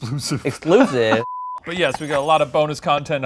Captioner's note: beeps